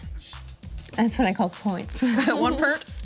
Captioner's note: everyone giggles